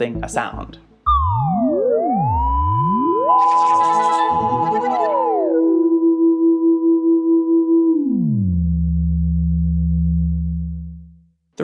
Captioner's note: trippy sounds